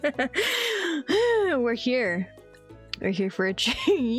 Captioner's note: sigh